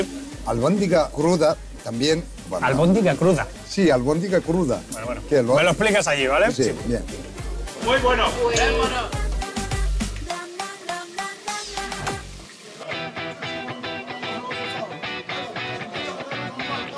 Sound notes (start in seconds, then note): 8.6 in spanish